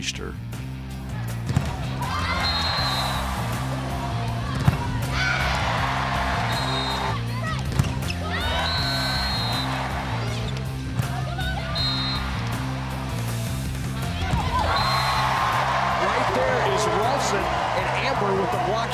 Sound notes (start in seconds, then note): 0.2 driving music; 2.2 whistle blows; 3.1 cheering; 6.4 whistle blows; 7.1 cheering; 8.4 whistle blows; 9.7 cheering; 11.6 whistle blows; 13.8 cheering; 14.6 whistle blows; 15.4 cheering